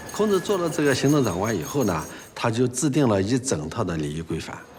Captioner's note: hablan un idioma extranjero